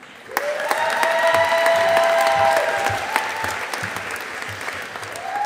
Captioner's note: audience applauding